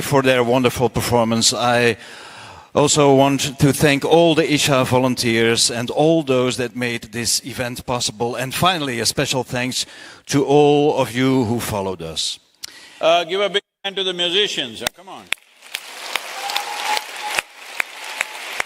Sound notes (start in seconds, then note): 15.5 cheering/Applause